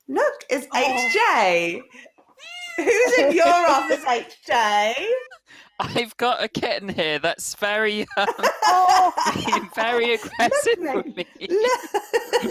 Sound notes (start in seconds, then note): 2.3 meowing; 11.9 laughter